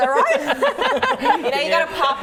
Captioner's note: laughing